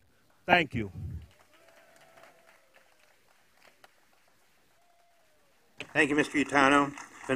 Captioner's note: applause